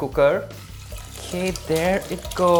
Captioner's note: water pouring